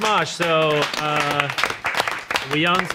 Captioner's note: everyone claps